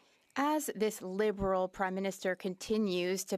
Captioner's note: speaking French